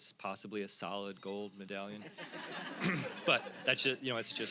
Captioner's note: audience laughing